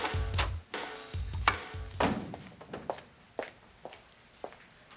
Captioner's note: door Opening; loud Footsteps